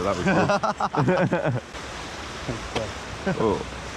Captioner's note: both laughing